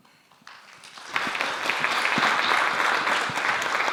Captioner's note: applause